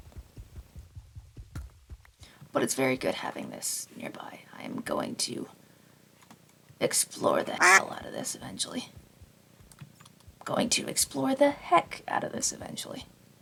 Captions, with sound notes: But it's very good having this nearby. I am going to explore the h- [duck quack] -ll out of this eventually. Going to explore the heck out of this eventually.